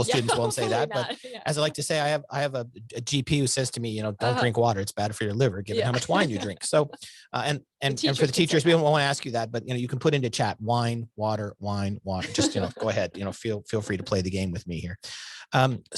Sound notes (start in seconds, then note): 5.6 laughs